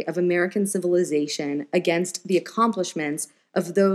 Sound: none

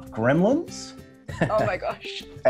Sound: laughs

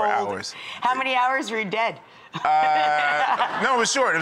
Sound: laughs

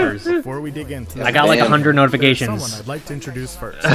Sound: laughing

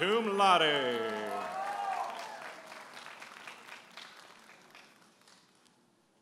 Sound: audience applauding and cheering

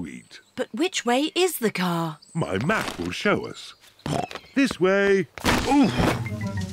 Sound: snorts

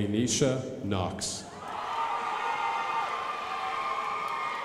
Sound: crowd applauding

